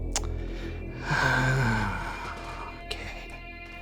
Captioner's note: sighs